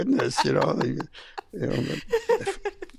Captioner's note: laughing